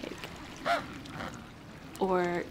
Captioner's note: penguin chattering